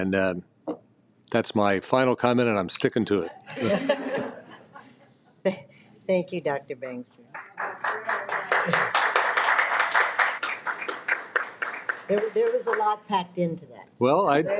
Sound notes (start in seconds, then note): 3.4 people laughing; 7.3 people applauding